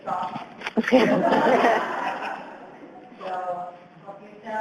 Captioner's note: audience laughs